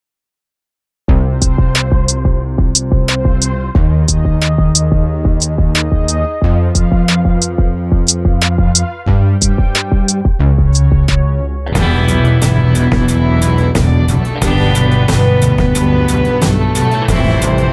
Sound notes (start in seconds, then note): 0.0 sound of danger